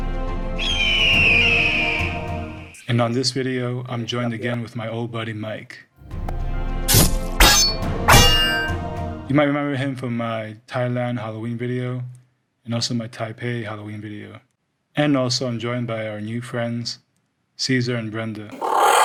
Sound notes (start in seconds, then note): 0.6 eagle screeches; 7.2 metal clangs; 18.8 inhaler whooshes